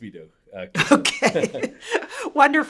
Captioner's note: chuckles